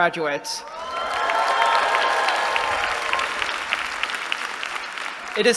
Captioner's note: cheering